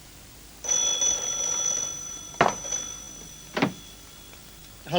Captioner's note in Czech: zvonění telefonu